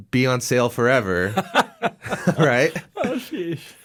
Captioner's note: laughing